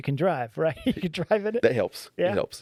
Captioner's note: laughing